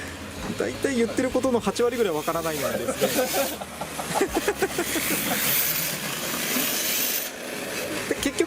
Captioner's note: laughs